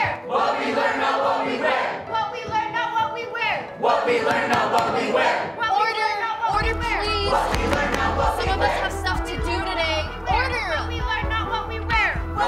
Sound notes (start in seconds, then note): 0.3 crowd; 3.7 crowd; 4.2 gavel banging; 7.5 crowd; 12.3 crowd